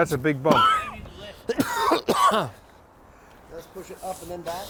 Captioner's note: coughs